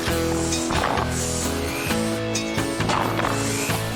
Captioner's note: engines Running